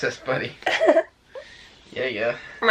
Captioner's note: chuckles